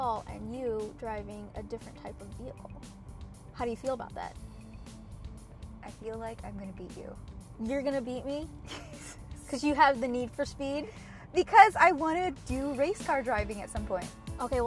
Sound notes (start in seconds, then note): 8.5 laughs